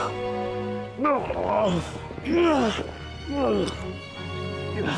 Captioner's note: Chris groaning